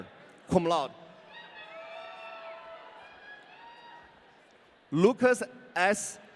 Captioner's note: audience cheering